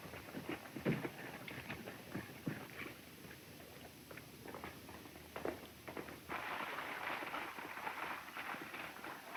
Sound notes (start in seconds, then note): 5.5 galloping hooves